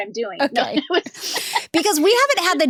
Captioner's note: laughs